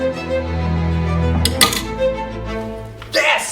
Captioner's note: rings bangs